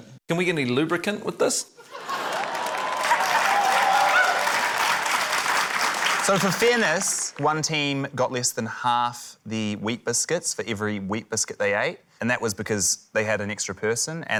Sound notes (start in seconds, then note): 1.9 laughter, cheering, applause